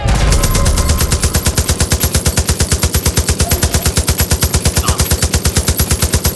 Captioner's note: gunshots